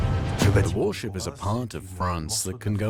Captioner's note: voiceover